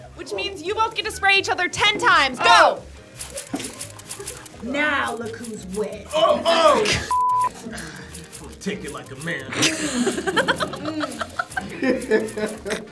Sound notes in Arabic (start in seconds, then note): 7.6 زمارة; 9.5 الجميع يضحكون